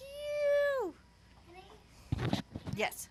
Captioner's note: talking off camera